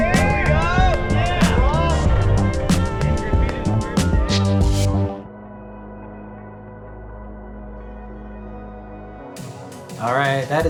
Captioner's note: hoots from skate buddies